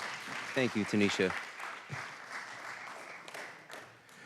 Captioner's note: applause